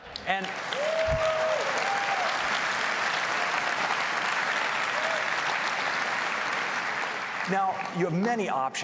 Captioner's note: applause